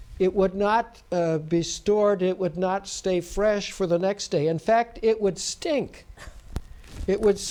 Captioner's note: laughs